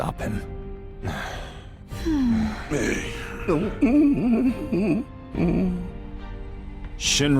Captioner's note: disgruntled sounds